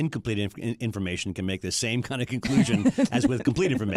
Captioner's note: laughs